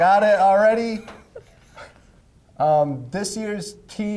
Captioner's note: laughing